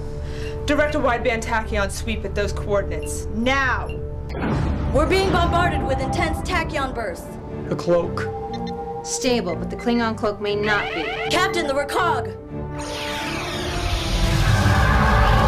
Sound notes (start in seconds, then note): 10.6 alarm